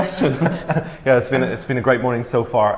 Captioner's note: laughs